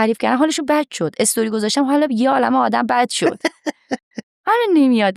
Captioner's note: laughs